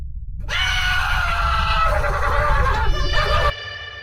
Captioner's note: screaming and panicked student nurses